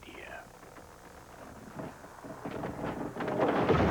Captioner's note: creaking; crash